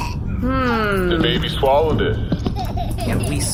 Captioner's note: Horsehat laughs